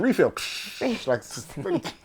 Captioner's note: laughter